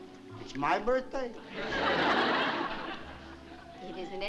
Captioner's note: laughter